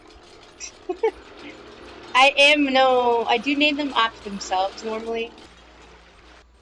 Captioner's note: laughter